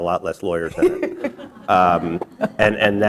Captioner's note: laughter